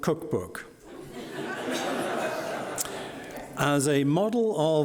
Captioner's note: audience laughing